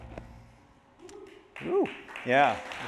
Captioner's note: applause